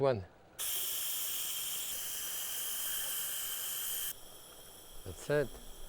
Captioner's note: pressure cooker hissing